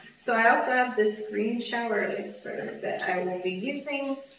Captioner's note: none